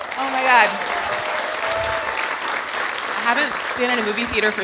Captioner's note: audience applauding